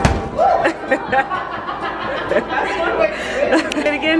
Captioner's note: laughing